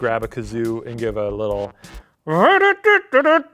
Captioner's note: imitates kazoo song